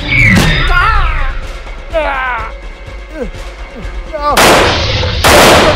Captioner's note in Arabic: رجل يئن; إطلاق نار